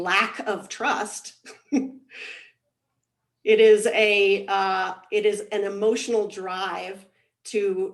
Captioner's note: laughs